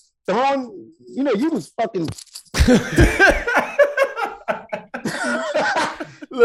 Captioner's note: laughing